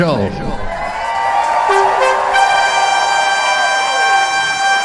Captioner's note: audience cheering/applause